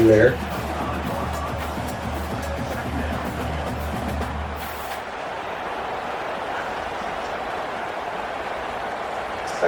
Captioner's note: crowd Noises